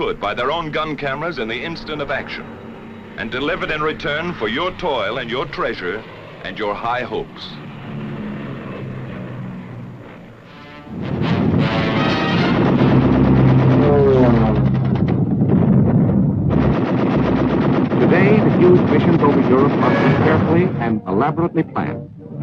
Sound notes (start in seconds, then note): 10.6 ominous music; 11.3 guns firing